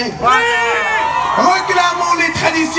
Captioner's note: applause